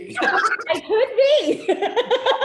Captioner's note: both laughing